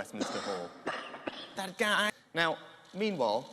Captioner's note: cough cough